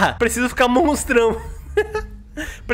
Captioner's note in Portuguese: risos